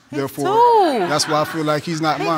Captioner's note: audience laughing